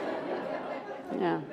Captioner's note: laughter